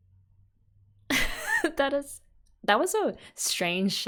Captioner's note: laughs